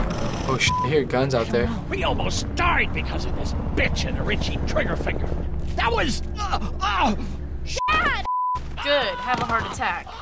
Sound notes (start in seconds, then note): 6.3 groaning